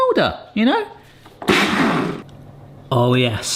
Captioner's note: blender blasts